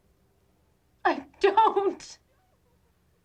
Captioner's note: crying